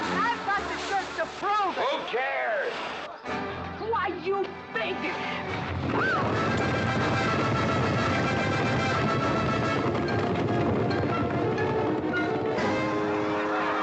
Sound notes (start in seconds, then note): 5.6 hooves pounding; 6.0 Katherine screams; 12.6 crowd laughing